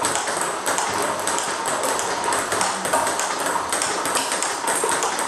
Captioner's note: ball ping pong hitting continues